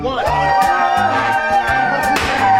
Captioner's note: all cheering; trombone music